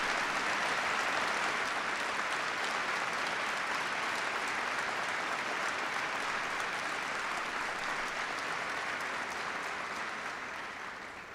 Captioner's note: applause